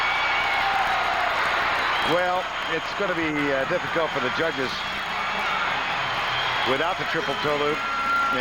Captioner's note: cheers and applause